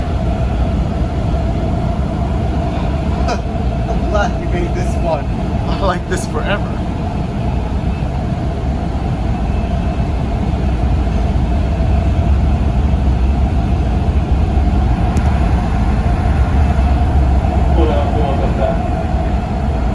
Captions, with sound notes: [chuckles] I'm glad we made this one. I like this forever. Court House, doors left side.